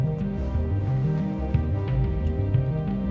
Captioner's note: none